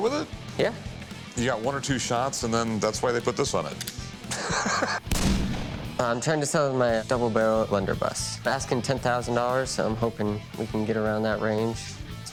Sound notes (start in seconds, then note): 4.2 laughs; 5.0 gunshot